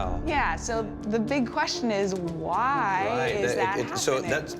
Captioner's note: stammers